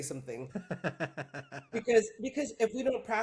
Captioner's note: laughing